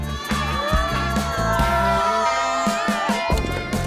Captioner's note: crowd cheers